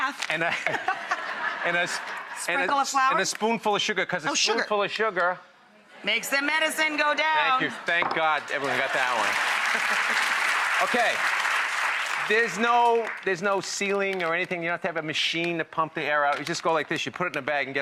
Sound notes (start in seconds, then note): 0.0 laughs; 8.2 audience applause